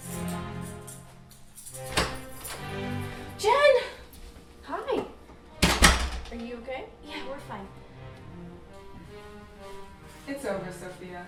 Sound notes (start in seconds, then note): 1.7 door opening again